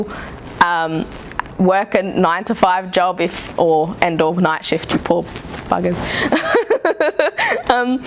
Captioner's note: laughs